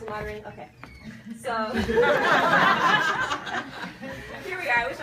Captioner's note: people laugh